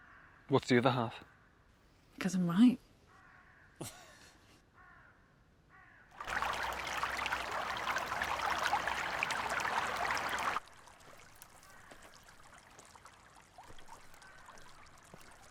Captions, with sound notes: - And what's the other half? - Because I'm right. (Jim laughing) (water trickling)